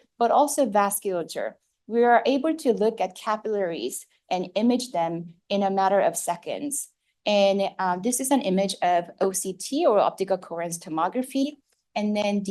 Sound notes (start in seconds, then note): none